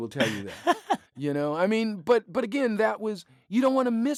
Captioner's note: laughter